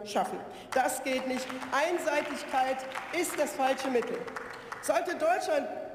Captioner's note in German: Beifall